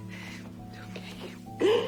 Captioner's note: whispering